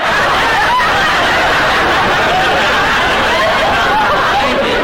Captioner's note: audience laughter